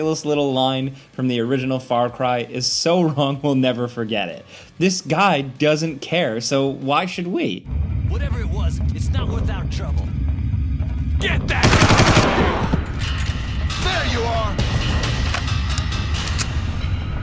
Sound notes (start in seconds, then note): 11.6 gun firing; 15.4 dramatic music